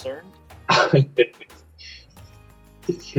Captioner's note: laughs